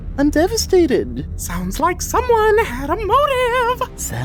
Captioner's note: sing-songy